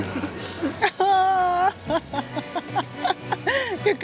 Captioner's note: laughs